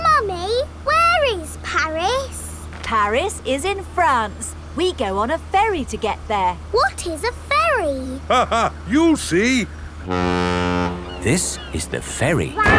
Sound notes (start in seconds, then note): 8.4 laughing; 10.0 ferry horn blows